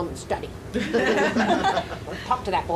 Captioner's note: audience laughing